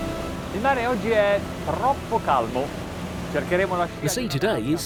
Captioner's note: speaking foreign language